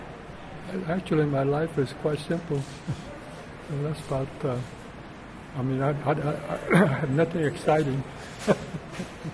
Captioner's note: laughs